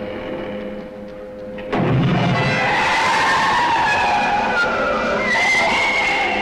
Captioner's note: creature screeching